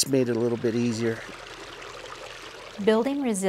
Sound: water flowing

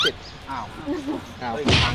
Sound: chuckles

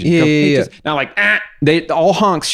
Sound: aggressive honk

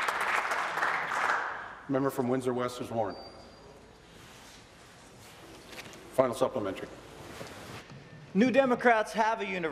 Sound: applause

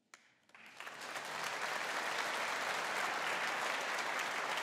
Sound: audience applauding

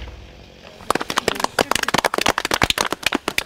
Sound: applause

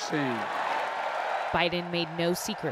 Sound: applause; cheering

